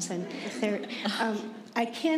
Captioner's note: chuckle